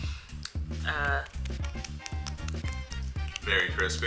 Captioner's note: chicken clinking